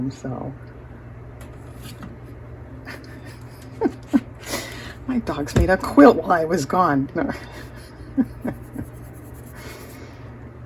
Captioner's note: laughter